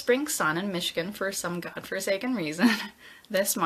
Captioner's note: chuckles